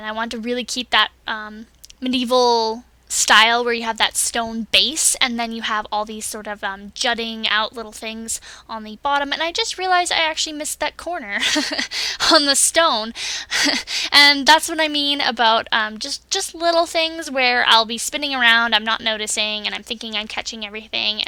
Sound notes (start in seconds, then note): 11.4 laughs